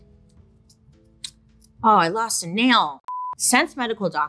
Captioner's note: tone beeps